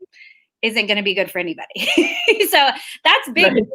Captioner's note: laughs